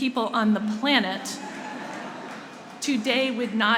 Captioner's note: laughter